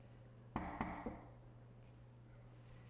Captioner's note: knock